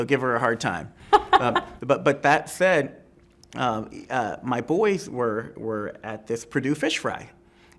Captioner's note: laughs